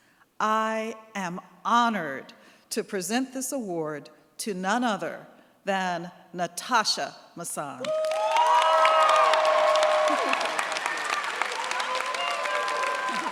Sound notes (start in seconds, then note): 7.8 cheers, applause